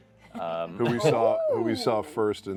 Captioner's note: laughs